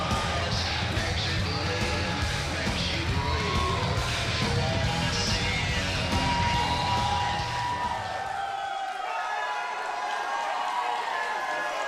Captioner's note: crowd cheering